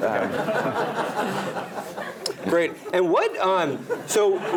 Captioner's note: laugh